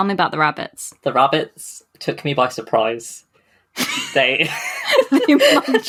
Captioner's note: laughing; laughs